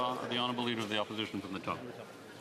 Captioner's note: speaking French